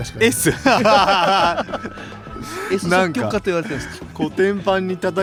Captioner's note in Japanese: 笑い